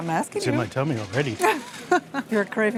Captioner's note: laughs